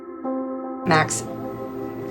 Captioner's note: voiceover